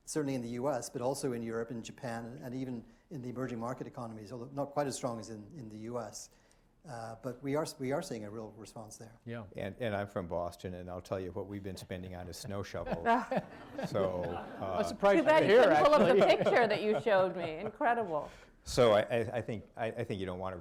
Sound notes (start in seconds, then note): 12.8 laughter